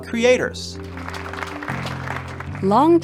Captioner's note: audience applauding